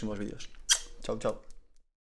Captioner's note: kisses